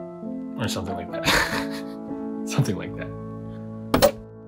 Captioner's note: laugh